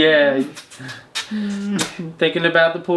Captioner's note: smooching; laughing